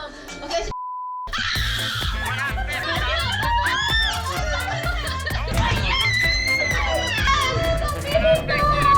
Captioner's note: screams